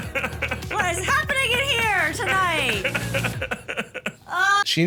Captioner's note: laughs; shrieks; laughing; moans